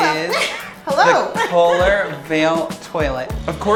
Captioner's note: laughs